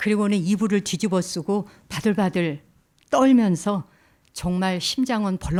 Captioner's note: speaking in Korean